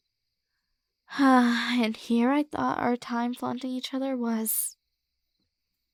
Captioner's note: sigh